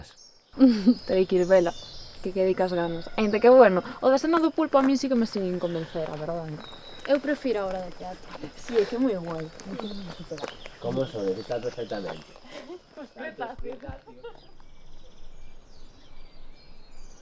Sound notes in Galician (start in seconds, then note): 8.8 voces alonxándose